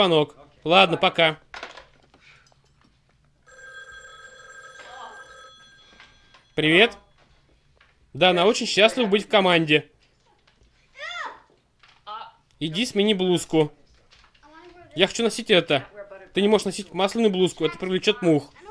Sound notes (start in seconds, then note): 3.4 telephone rings; 5.3 sighs